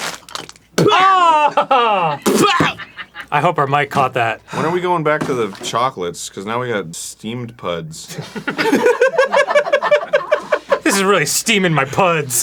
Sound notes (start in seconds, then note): 2.4 cackling